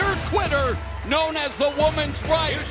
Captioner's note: bell ringing